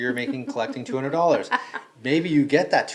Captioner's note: laughing